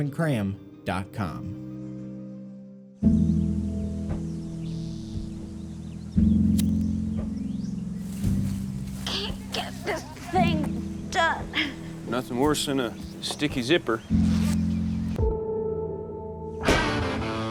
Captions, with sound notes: (gentle music) (lighter striking) - Can't get this thing done. - Nothing worse than a sticky zipper. (rock music)